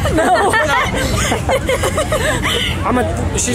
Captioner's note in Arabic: أمي تضحك